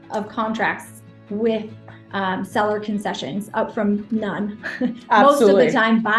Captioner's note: laughs